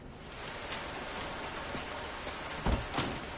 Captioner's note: rain storm